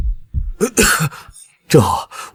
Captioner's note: cough